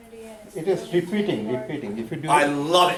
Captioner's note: voiceover